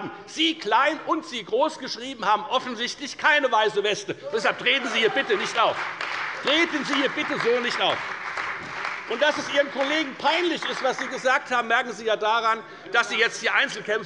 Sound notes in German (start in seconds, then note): 6.4 Beifall bei der CDU und bei dem BÜNDNIS 90/DIE GRÜNEN